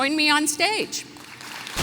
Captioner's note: applause